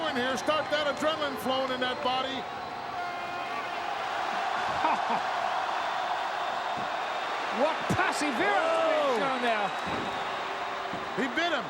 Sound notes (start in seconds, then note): 4.5 crowd cheering